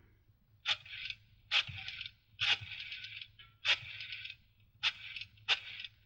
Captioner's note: phone dial clicking